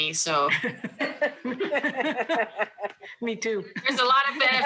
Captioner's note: laughs